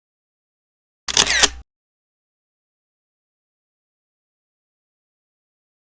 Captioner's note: camera lens snapping